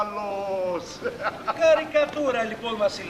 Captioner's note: γέλιο